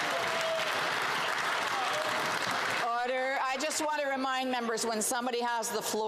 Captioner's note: some Applause